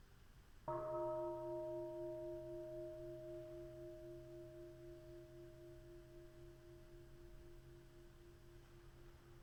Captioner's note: bell chimes